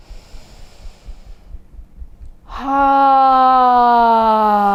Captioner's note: inhaling and sighing